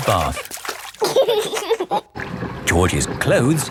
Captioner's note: giggling